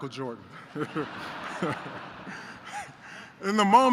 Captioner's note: laughter